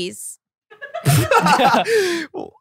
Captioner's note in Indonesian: tertawa